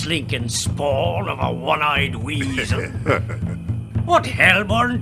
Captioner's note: laughter